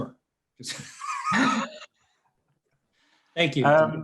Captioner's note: laughing